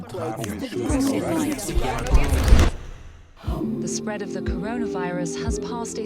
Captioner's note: multiple languages